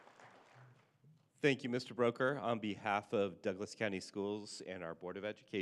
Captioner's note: applause